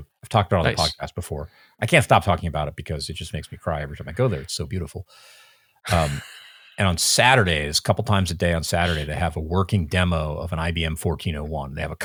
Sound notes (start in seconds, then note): 5.9 laughing